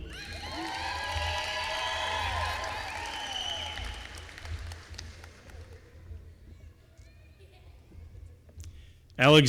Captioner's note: applause